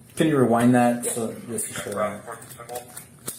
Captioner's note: radio chatter